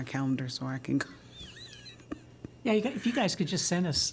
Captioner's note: laughter